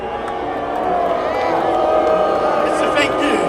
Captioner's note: crowd booing